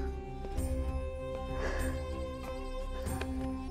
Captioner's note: Sighs